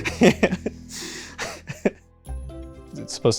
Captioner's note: laughter